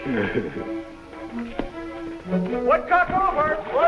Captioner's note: Piggy chuckles